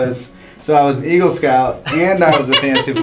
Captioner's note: laugh